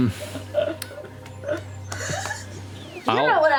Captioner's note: laughter